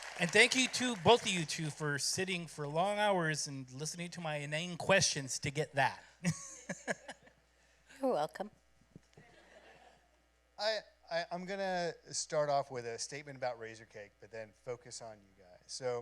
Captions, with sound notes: Thank both of you too for sitting for long hours and listening to my inane questions to get that. [laughs] You're welcome. I'm going to start off with a statement about Razorcake, but then focus on you guys.